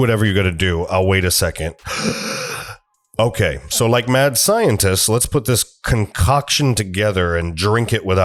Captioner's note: breath